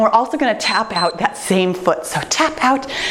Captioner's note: timer beeps